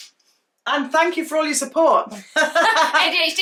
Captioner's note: they laugh